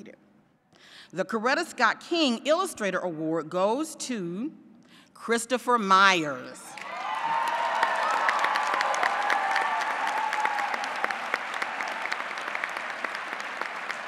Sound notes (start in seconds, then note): 6.7 applause